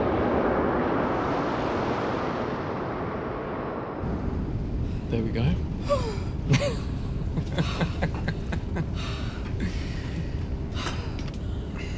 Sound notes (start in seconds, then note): 7.4 laughing